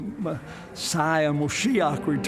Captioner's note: speaking in Hebrew